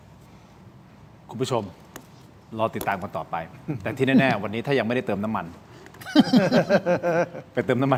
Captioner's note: laughter